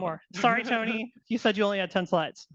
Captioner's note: laughing